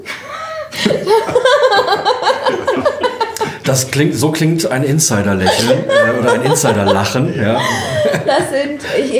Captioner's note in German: lacht